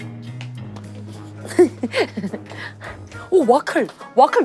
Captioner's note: heheheheheheheh